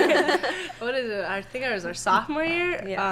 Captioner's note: laughing